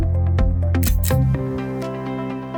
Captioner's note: click